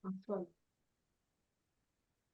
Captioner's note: none